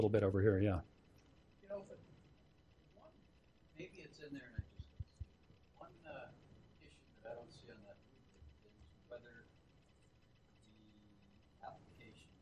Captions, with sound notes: bit over here, yeah. (voice murmuring)